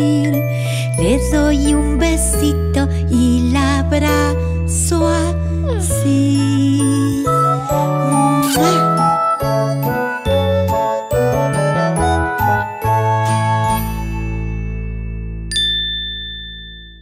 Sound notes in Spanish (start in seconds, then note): 8.6 Sonido de beso